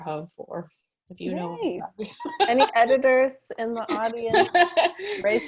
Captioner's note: laughs